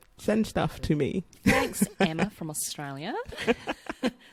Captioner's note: aussie accent